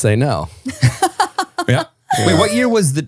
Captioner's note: laughing